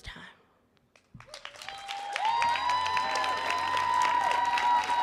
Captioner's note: audience applauding